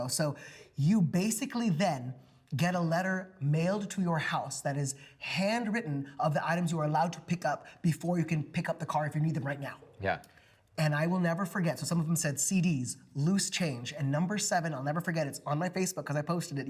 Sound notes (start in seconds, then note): none